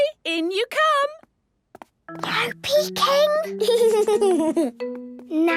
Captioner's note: whispering; Danny giggling